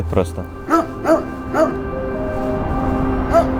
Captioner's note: dog barking